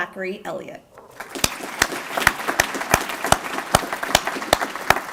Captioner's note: applause